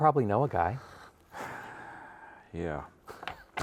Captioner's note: sighs; both laughing